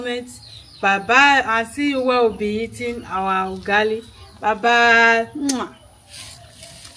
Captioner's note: kisses